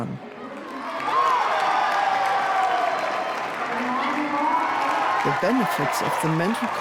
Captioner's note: crowd cheering and clapping